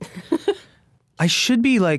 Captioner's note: laughing